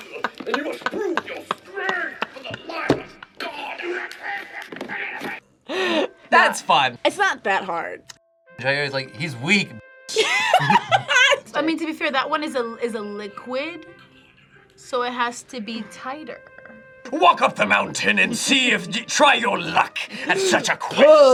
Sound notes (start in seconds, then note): 0.0 laughs; 3.4 grunts; 10.1 laughs